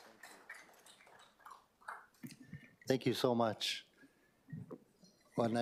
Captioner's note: applause